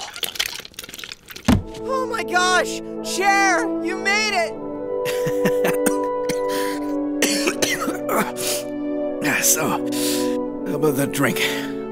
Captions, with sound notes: Oh my gosh, Chair! You made it! *injured coughing* So, how 'bout that drink?